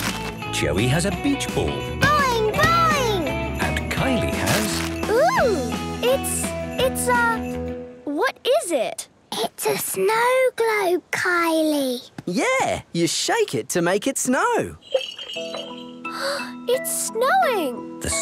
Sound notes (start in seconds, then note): 9.6 whispering